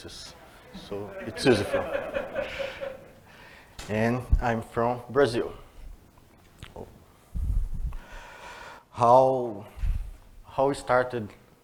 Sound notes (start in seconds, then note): 0.7 laughter